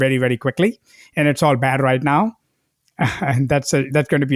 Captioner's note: laughs